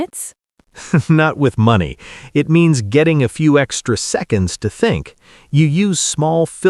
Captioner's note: laughs